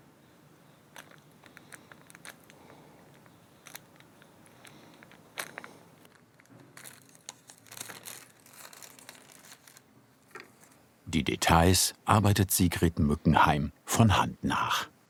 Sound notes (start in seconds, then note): 1.0 the paper creaks; 6.8 the paper rustles